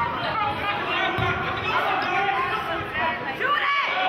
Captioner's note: yelling